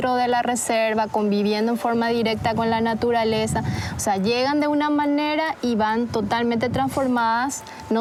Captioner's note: speaking In Foreign Language